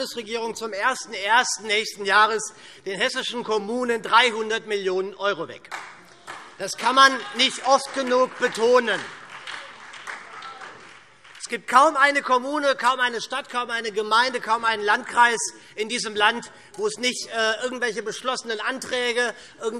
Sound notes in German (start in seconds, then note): 8.9 Beifall SPD